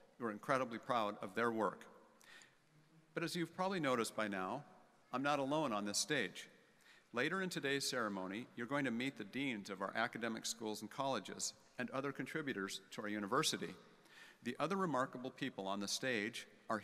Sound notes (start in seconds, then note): none